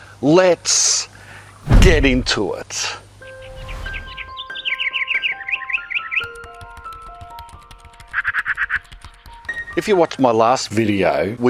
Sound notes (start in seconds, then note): 3.2 birds chirping; 4.1 gentle piano music; 6.2 keyboard clacking; 8.1 bird squawking